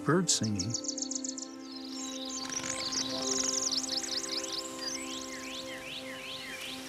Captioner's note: birds chirping; birds flapping